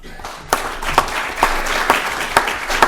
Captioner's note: applause